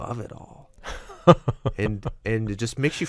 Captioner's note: laughs